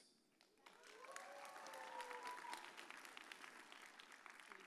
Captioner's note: audience cheers